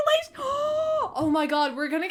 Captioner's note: gasp